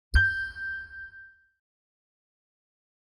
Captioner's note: chime dings